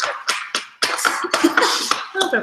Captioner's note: claps paper on table; laughs